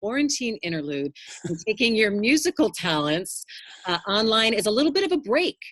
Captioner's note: laughs